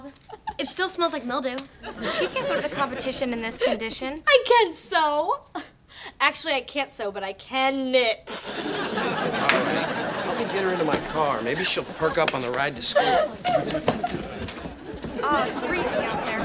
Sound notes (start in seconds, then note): 8.2 punchy laughter; 13.3 laughing